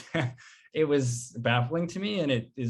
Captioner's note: chuckles